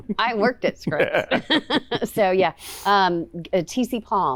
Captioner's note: laughs